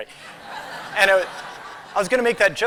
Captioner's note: laughter